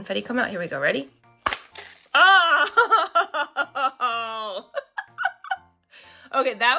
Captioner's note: laughs